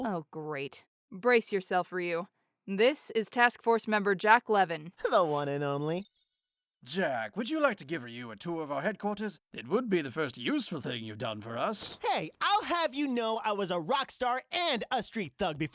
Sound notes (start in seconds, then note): 6.0 anime 'shing'